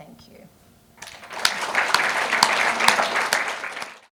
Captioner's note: audience applauding